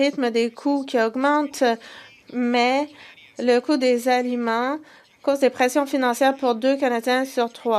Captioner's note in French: voix de l'interprète